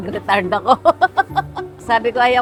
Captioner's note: laughs